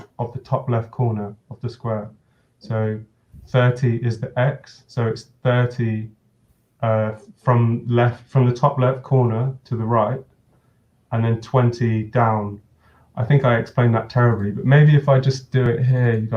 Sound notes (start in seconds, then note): none